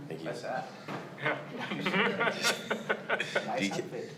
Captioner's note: Drew and audience laugh